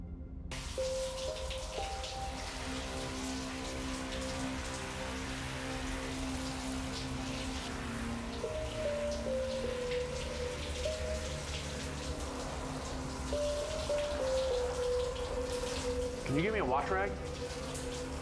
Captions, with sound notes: (water splashing) (pensive music) - Can you get me a wash rag?